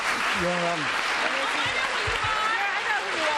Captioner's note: applause